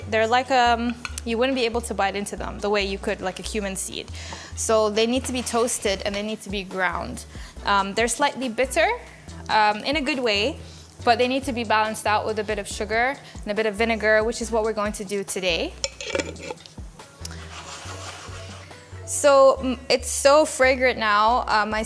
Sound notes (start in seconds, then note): 15.8 lid clinks; 17.2 seeds scraping